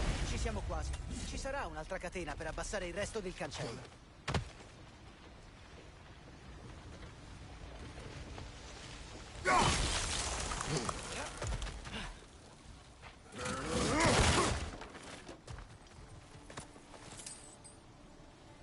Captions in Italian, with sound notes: Ci siamo quasi. Ci sarà un'altra catena per abbassare il resto del cancello. [gemito]